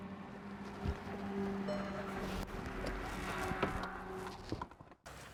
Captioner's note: notification beeps